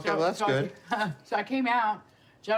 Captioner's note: laughs